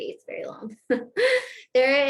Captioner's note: laughter